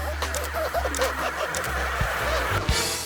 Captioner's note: slippery metal squeaking; camera clicking